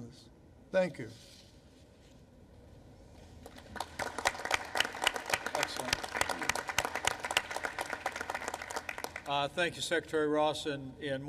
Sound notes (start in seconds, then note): 3.4 applause